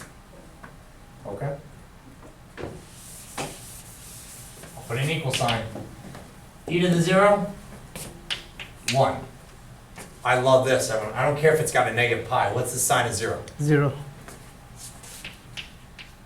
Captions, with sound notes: Okay? Put an equal sign. e to the zero? One. I love this one. I don't care if it's got a negative pi. What's the sine of zero? - [Voiceover] Zero.